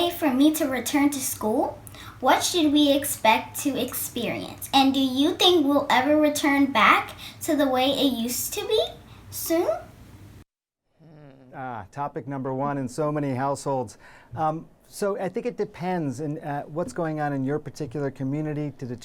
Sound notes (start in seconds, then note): none